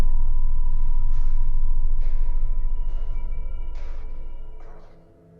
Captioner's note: footsteps tapping